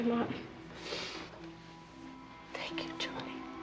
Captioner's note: sniffs